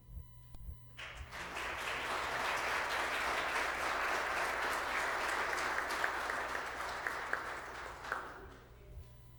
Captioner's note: applause